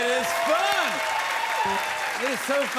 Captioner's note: cheers and applause